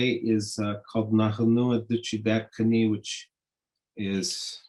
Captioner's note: speaking in Native language